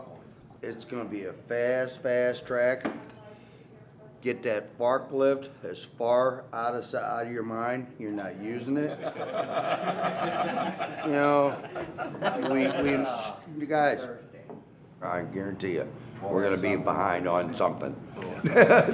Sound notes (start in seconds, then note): 8.8 laughter; 18.2 laughs